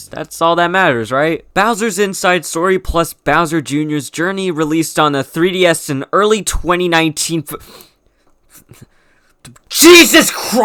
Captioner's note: stuttering